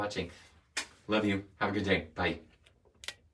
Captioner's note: smooches